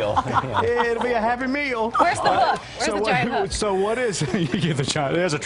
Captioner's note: laughter